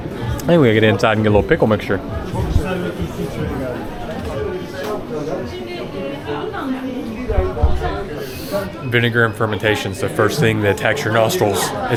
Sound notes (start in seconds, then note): 8.2 inhales